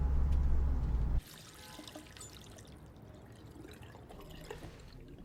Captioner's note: faucet running